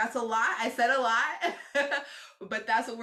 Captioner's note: chuckling